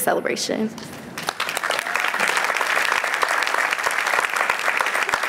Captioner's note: applause